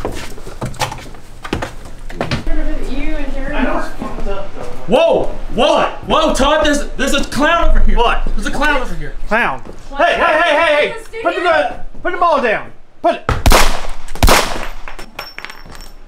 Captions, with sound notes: (all chattering) Whoa! Whoa, Todd, there's a clown over here. What? There's a clown over here. Clown? Hey, hey, hey, hey, hey, put the ball down! (gun firing)